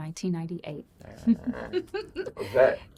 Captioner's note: giggling